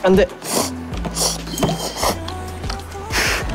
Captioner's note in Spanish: Sorber los fideos